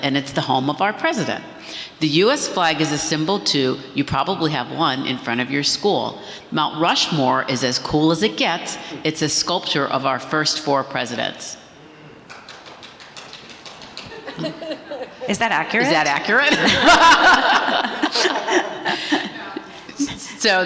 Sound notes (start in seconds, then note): 12.2 audience applauding; 16.3 everyone laughing